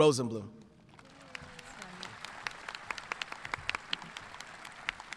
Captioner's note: audience clapping